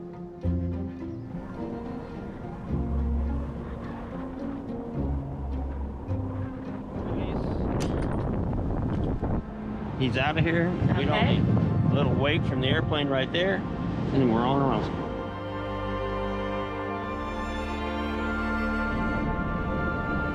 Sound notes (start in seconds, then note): 0.1 soft strings music continues; 7.2 wind blowing; 16.5 relaxing music